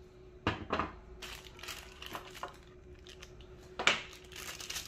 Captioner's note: screwdriver being placed; plastic sound